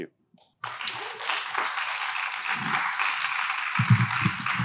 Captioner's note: audience applauding